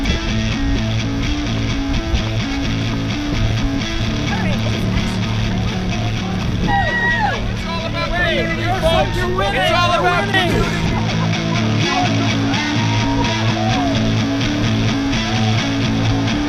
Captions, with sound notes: You're winning (laughs)!